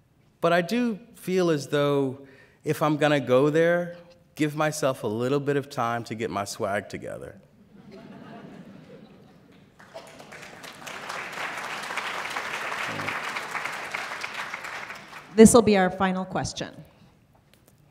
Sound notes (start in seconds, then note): 7.6 laughter; 9.7 applause